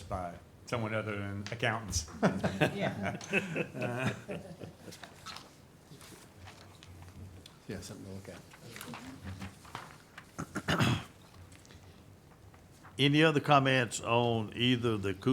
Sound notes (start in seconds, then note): 2.1 laughs; 7.7 murmuring